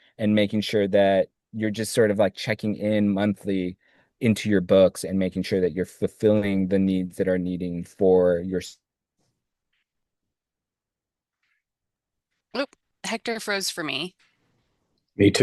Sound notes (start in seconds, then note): 11.6 audio cuts out